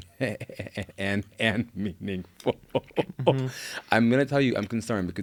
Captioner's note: laughs